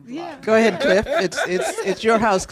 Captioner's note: laughter